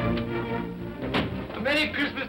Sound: door bangs open

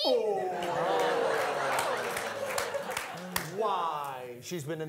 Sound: audience laughing

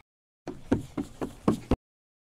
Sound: footsteps

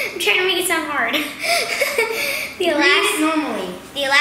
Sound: laughs

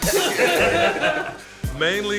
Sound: laughter

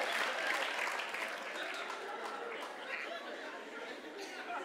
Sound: applause

